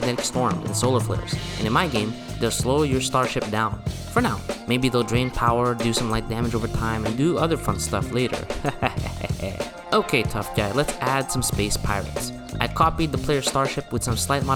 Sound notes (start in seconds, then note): 7.8 muahahaah